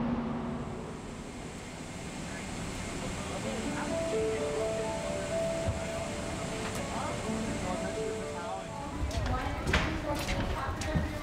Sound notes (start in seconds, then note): 4.5 chatter